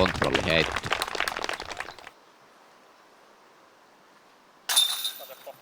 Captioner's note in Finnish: Aplodeja